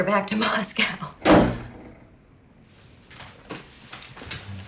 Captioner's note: door thudding